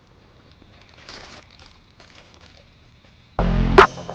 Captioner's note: bags rustle; dark electronic music